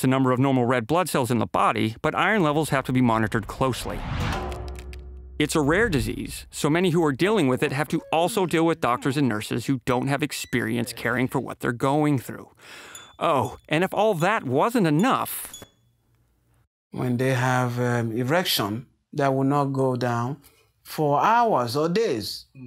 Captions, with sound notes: the number of normal red blood cells in the body, but iron levels have to be monitored closely. (loud clanging) It's a rare disease. So many who are dealing with it have to also deal with doctors and nurses who don't have experience caring for what they're going through. Oh, and if all that wasn't enough. - When they have erection, they will not go down for hours or days.